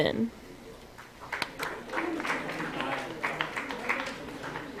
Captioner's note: applause